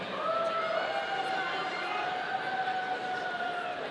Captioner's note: audience cheering